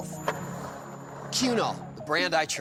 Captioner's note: skateboard wheels roaring